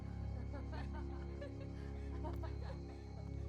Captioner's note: people laughing